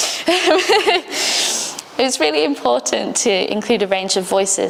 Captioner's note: laughs